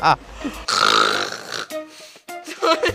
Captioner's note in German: Lautes Schnarchen; Lautes Lachen